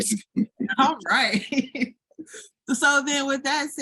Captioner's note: chuckles